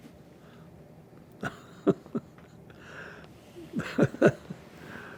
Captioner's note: pauses 6 seconds; laughing